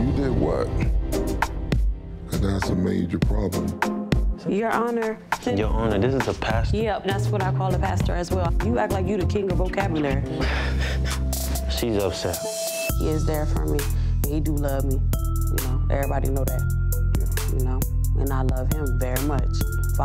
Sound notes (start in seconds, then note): 1.4 steady tempo drumbeat; 10.4 laughs